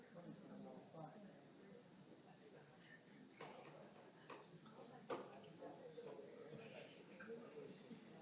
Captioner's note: audience noise continues